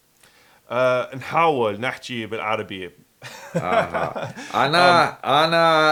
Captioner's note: laughs